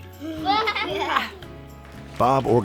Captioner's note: children laugh